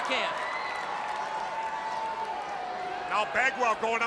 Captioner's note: crowd cheering